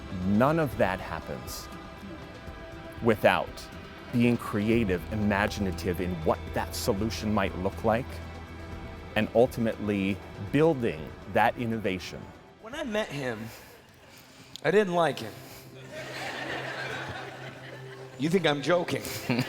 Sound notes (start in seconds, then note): 15.8 crowd laughing